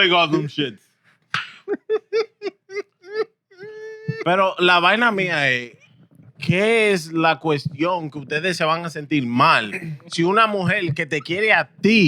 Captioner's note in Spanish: Hablando en idioma extranjero; Riendo